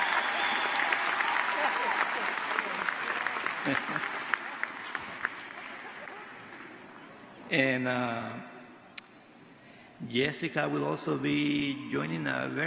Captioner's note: applause